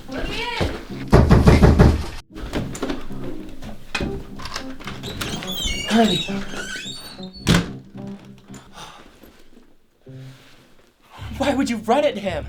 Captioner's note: door banging